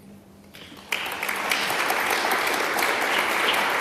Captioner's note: applause